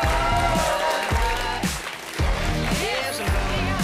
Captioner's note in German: Jubel und Applaus